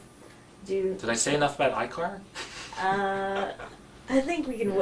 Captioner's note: laugh